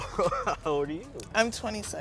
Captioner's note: laughing